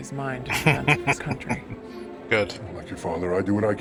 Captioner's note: chuckling